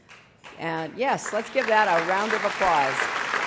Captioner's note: applause